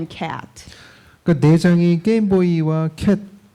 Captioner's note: speaking korean